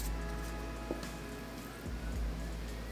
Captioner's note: sound of rolling out dough